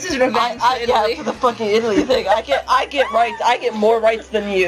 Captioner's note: laughing